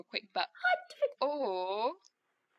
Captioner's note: sounds of nyx protesting